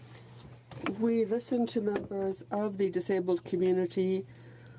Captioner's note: speaking French